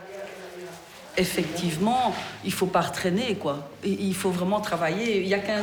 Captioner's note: speaking in foreign language